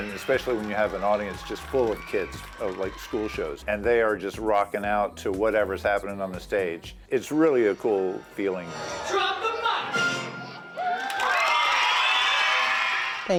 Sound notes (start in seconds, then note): 9.9 audio chiming; 10.7 people cheering